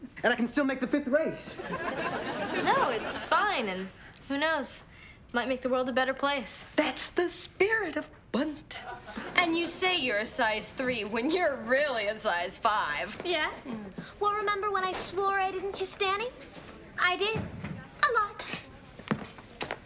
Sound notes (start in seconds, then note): 1.6 audience laughing